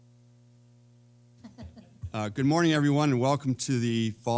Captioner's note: laugh